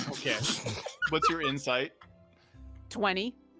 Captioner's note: people laughing